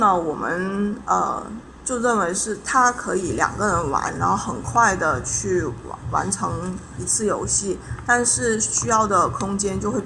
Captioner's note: explaining in Chinese